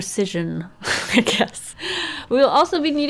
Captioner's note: laughs